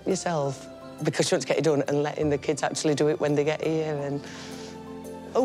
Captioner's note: inhales